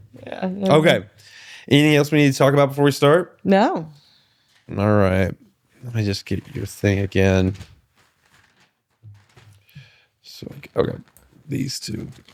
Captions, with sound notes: Okay, anything else we need to talk about before we start? No. All right, let me just get your thing again. (paper rustling) Okay, these two.